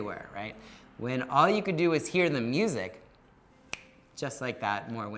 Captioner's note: snaps